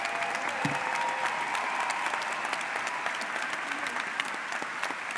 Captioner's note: audience cheers